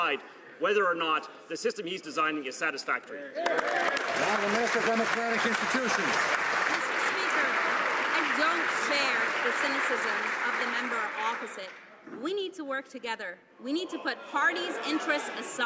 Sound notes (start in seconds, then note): 8.9 some Applause